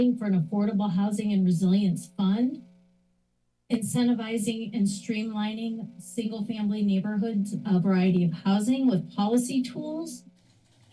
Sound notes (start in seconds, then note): 2.6 pause